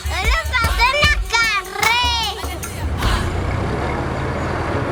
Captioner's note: speaking foreign language